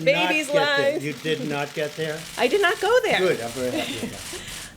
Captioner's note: laughs